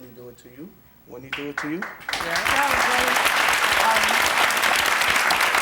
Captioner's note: audience applause